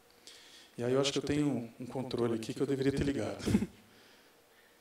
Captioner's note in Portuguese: risos